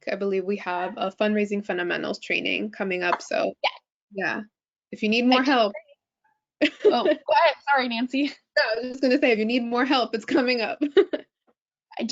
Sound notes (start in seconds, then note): 3.1 hands clapping; 6.7 laughing; 11.3 laughing